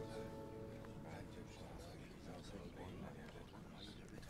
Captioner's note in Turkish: Konuşma sesleri